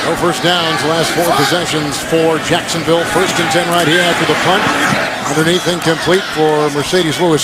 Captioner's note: laughs